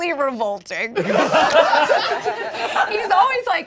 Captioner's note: all laughing